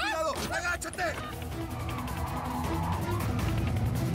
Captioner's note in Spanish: sonido de motor acelerado